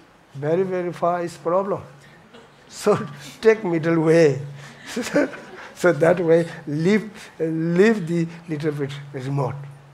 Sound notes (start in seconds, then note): 4.7 laughs